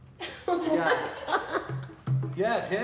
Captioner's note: laughter